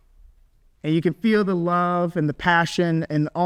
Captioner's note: none